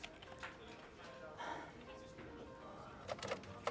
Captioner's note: sighs